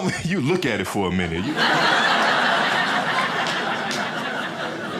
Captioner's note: crowd laughing